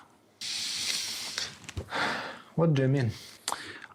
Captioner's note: sighs